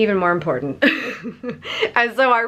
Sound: laughing

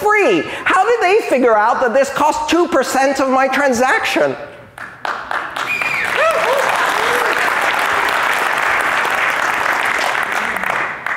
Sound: applause

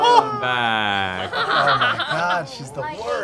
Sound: laughter

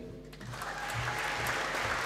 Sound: applause

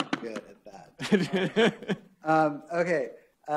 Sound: laughs

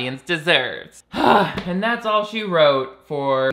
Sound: sighs deeply

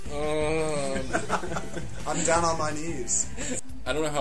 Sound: laughs

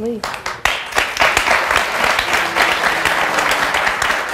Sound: audience applauding

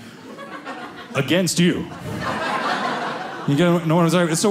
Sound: audience laughing

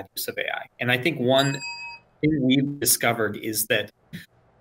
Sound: bell dings

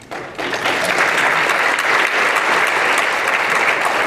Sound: applause

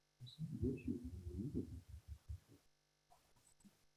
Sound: whispering

